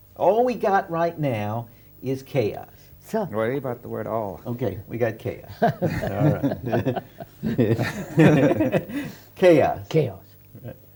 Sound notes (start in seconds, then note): 5.5 laughter